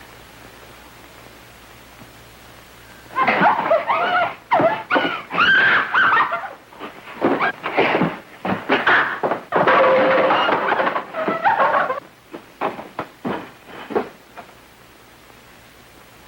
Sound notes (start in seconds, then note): 4.8 Mary screaming; 8.5 clattering